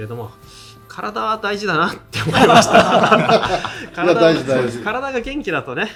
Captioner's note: laughs